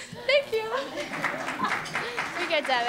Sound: applause

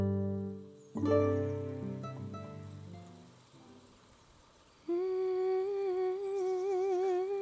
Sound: humming

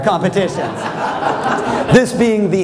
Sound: laughter

